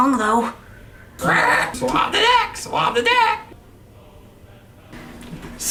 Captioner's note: parrot squawks